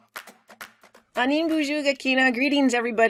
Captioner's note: speaking in foreign language